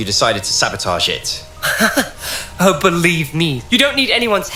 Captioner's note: fake laugh